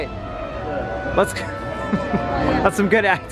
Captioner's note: laughing